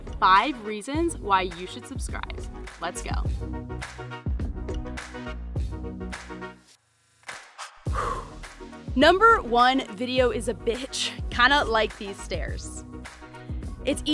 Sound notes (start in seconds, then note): 3.7 adventurous music; 7.8 exhales sharply